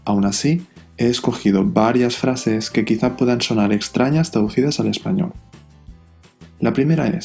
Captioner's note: Spanish